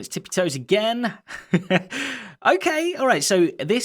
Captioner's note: chuckles